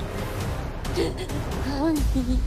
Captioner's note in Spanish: Sollozos